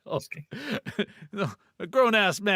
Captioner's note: laughing